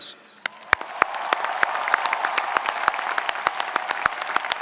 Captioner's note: spectators applauding